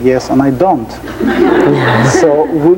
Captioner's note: laughing